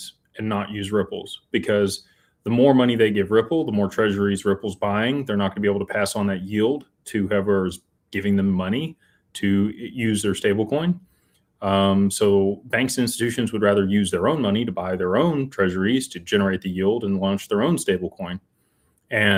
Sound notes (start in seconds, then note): none